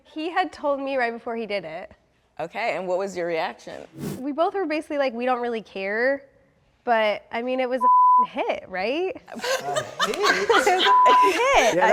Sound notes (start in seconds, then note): 7.8 beep; 9.3 laughter